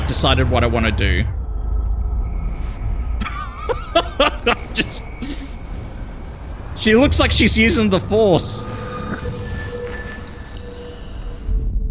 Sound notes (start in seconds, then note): 3.2 laughs